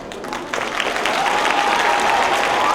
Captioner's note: applause